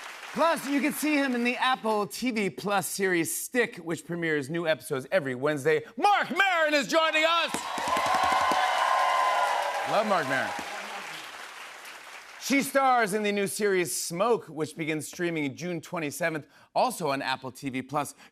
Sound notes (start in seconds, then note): 7.2 cheers and applause